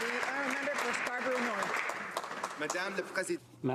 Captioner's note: some Applause